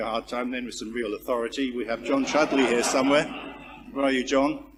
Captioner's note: laugh